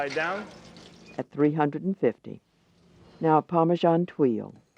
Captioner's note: voiceover